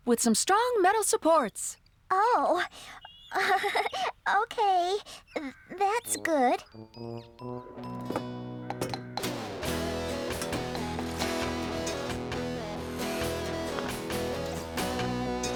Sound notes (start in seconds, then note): 2.6 giggling; 8.6 hammering